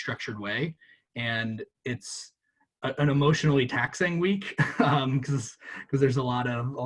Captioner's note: chuckles